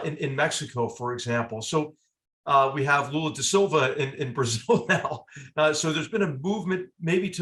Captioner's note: laugh